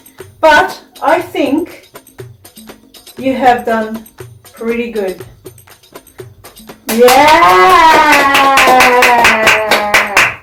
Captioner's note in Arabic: تصفيق